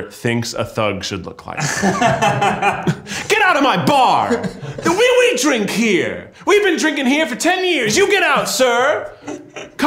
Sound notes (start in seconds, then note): 1.5 both laughing